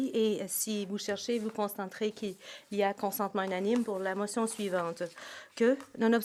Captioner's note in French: voix de l'interprète